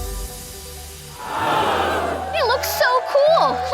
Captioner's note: audience gasps